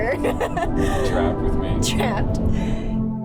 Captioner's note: laughing